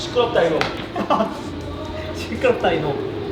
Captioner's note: bursting into laughter due to a random scolding